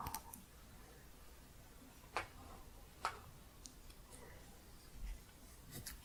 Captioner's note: a few taps